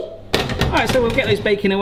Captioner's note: pan clanks